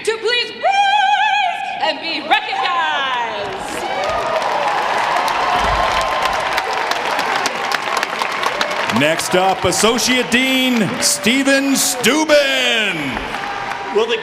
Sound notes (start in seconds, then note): 5.0 audience applauding